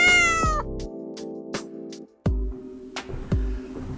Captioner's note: cat meows